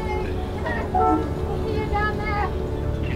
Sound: boat horn blows

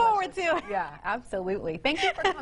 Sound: woman laughing

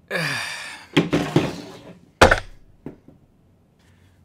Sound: hammer thudding

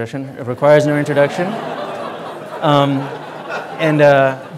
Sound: audience laughing

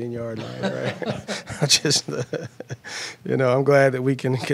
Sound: laughter

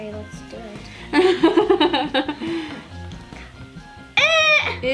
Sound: laughs

